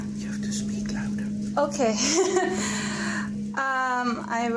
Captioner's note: laughs